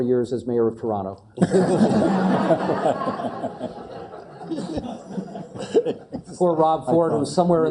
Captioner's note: laugh